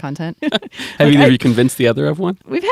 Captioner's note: laughter